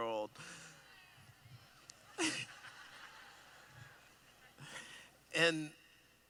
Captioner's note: laughing